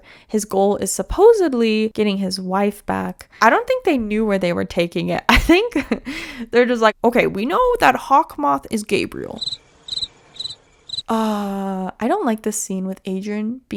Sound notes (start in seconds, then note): 9.3 crickets